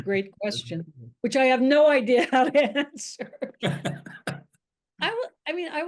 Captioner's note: laughs